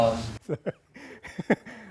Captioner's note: laughter